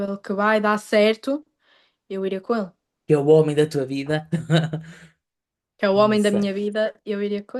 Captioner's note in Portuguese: risadas